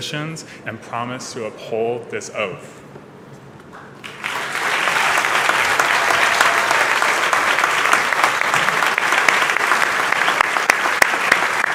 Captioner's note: cheers and applause